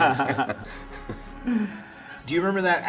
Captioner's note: both chuckling